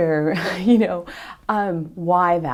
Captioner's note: laughs